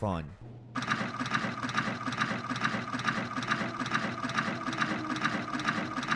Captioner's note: pensive music; mechanism clanking